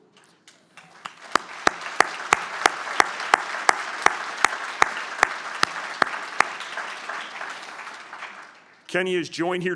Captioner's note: applause